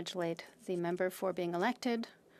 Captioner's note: speaking French